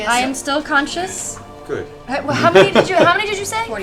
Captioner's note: laughs